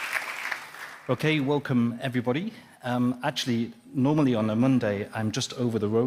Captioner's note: applause